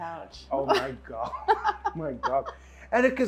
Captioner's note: laughing